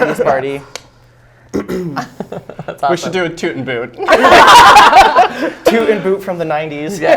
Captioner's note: laughs